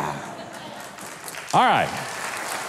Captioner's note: audience applauds